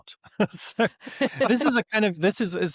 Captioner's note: laughter